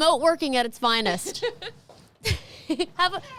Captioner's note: laughing